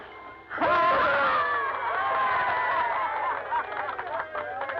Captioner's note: cheering and applause